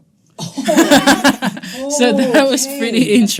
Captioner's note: all laughing